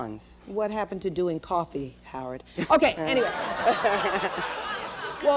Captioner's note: laughter